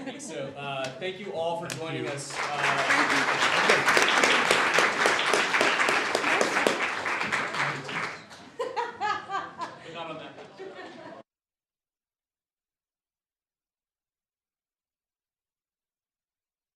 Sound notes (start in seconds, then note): 1.7 applause